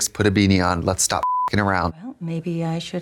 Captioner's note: beep